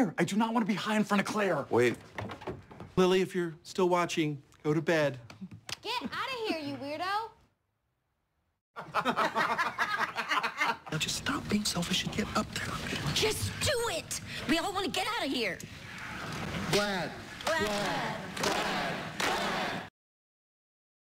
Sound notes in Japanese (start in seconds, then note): 8.7 笑い; 17.4 すべての唱える「ヴラド」